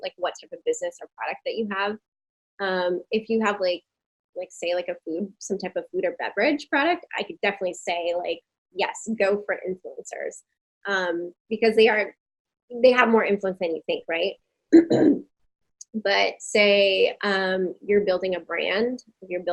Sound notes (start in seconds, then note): 14.7 clears throat